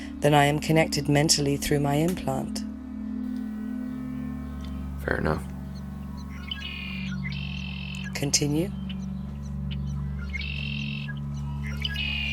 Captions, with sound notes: then I am connected mentally through my implant. Fair enough. Continue? [songbird]